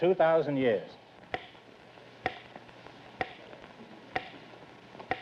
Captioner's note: clock ticking